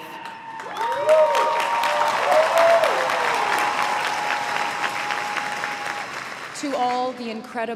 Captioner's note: crowd members voicing their approval and applauding